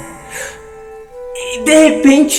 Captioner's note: gasp